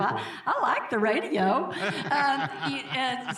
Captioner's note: both laughing